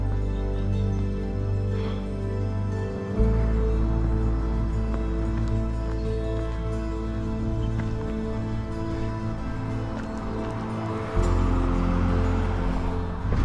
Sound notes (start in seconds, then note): 0.2 birds chirping; 0.2 footsteps crunching; 6.3 engine roars